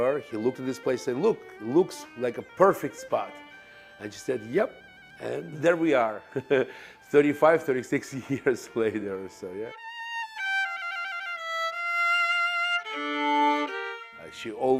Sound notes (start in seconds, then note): 6.2 laughs; 10.0 violin Music